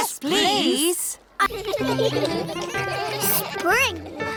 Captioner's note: giggling